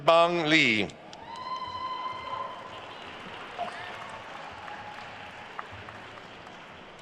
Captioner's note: attendees cheering and applauding